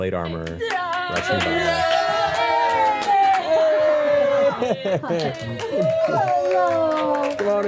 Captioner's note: cheering